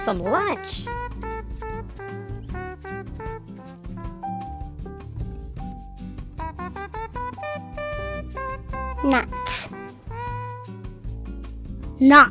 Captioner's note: kids speaking Cheyenne numbers